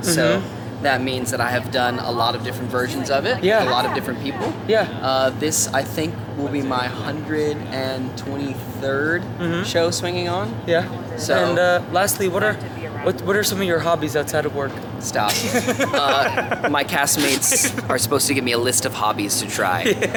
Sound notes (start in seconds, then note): 15.3 laughing